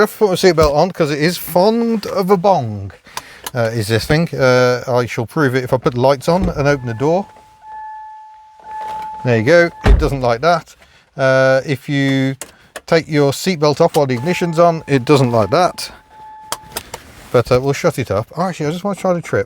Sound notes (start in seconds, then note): 6.3 bonging; 15.4 bonging